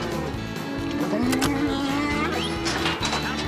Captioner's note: whistling; mooing, ear tag clicking